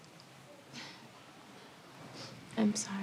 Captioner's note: chuckles softly